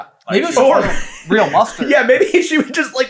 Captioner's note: laughing